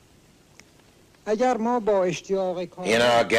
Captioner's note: Persian spoken audio